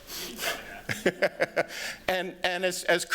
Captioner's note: laughs